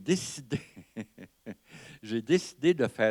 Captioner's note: laughter